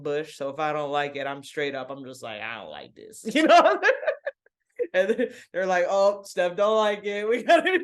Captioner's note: laughs